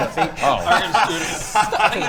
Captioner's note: enthusiastic laughter